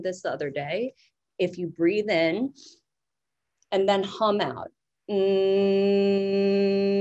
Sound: hums

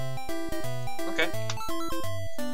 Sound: Mario pause sound

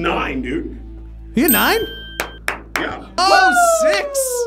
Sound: clapping

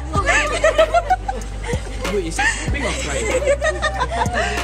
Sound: laughs

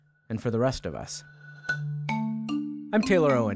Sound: device chiming

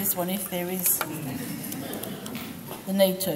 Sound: group laughs

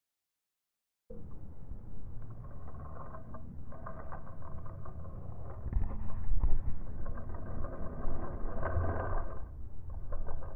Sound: sound of creepy metal

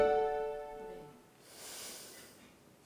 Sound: sighs

